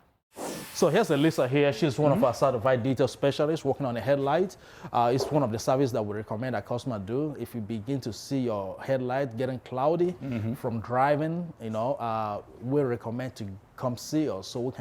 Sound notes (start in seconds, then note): 0.3 whoosh sound